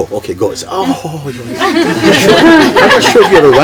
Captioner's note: laughter